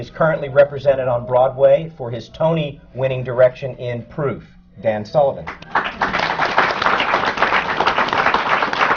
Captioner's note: applause